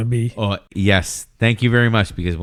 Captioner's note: uh